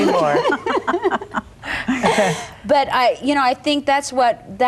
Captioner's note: all chuckling